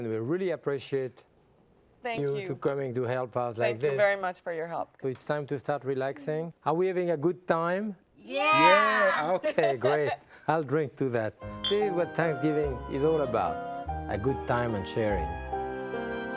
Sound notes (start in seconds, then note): 11.5 glasses clinking; 16.1 pleasant music